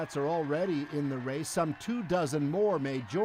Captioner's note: cheers and Applause